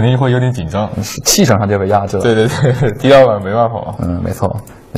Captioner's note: laughs